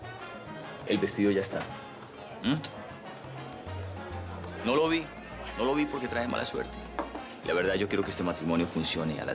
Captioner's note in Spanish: Voz baja